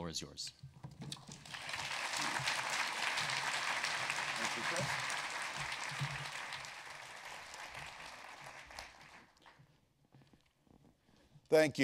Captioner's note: applause